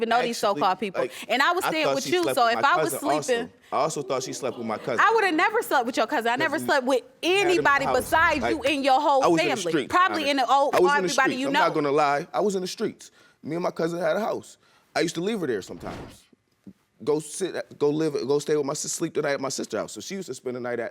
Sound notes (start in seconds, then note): 15.9 stammers